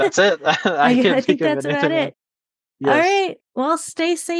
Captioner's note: laughs